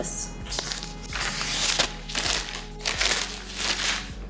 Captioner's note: plastic tearing